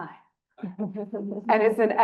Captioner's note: panel chuckles